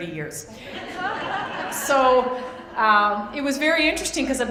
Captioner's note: laughter